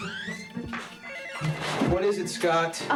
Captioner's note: door squeaks; phone rings